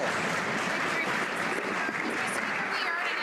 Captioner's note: some Applause